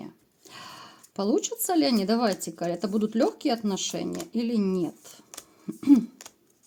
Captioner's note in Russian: откашливается